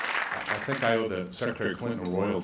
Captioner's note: applause